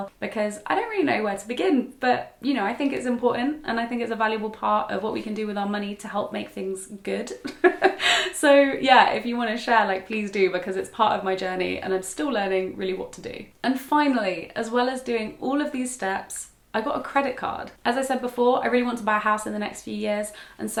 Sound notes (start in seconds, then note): 7.4 laughs